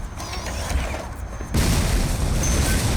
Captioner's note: explosion_noise